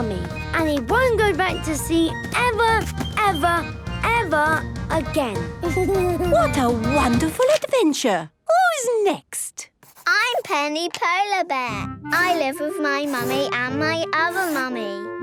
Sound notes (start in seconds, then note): 5.3 Danny giggles